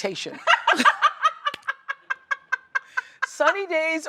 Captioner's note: laughs